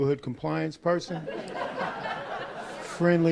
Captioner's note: laughs